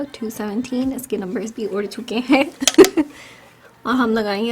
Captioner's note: laughs